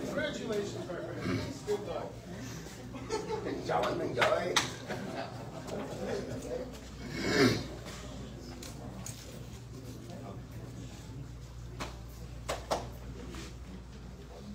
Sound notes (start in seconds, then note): 2.6 indistinct chatter